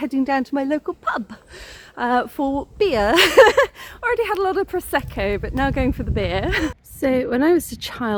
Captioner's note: laughing